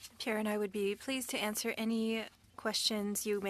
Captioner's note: speaking French